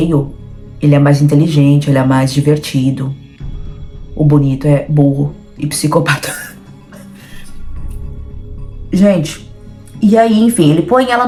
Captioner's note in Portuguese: risos